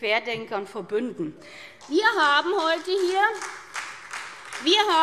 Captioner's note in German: Beifall SPD